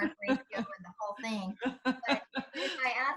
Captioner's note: laughs